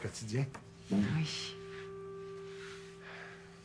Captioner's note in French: soupir